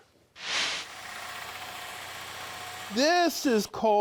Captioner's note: screw whirring